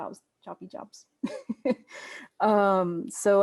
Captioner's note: laughs